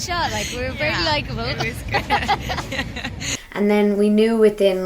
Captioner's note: laughs